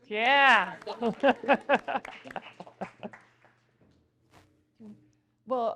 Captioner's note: audience applauding